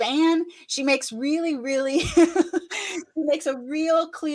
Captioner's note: laughs